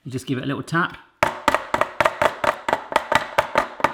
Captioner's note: taps tray